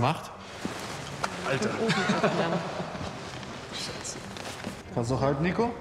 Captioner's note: laughing cursing